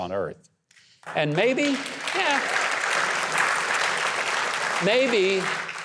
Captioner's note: audience applause